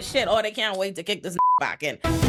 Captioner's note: beep